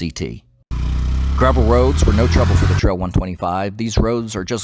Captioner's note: engine Sounds